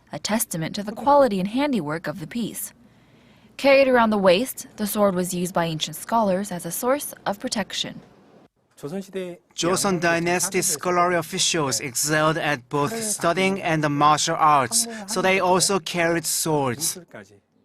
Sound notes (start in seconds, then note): 8.2 korean